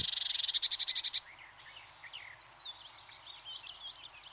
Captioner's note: birds calling